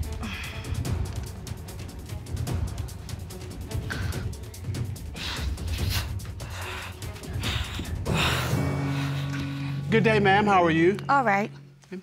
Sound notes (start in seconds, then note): 0.0 sighs; 0.1 dramatic music playing; 5.0 retches, breathes heavily